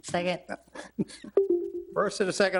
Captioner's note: chuckling; electronic chime